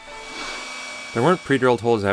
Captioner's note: drill whirring